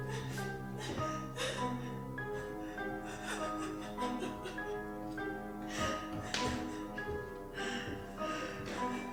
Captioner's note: Ronnie cries; Ronnie sobs